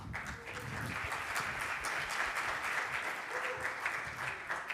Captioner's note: audience applauds